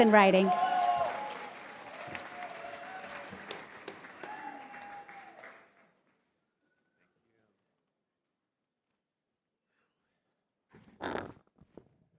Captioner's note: cheers and applause